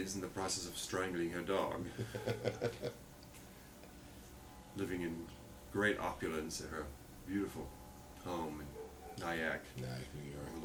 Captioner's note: laughter